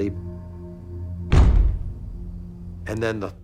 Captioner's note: loud thumping